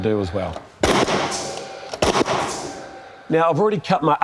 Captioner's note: nail gun sound